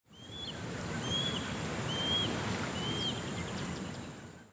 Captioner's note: birds chirping